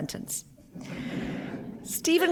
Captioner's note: laughter